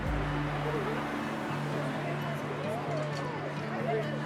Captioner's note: sound of conversation